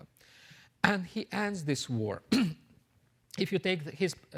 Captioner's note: clears throat